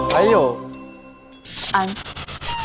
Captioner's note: ding